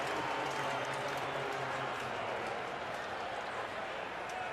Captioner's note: pa announcement